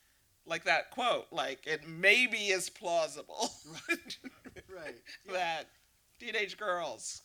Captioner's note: laughter